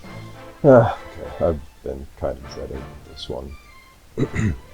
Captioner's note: heavy sigh